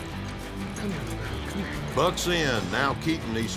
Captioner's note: hoofbeats